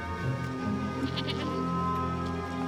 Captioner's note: goat bleeting